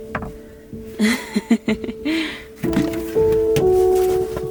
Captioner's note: laughing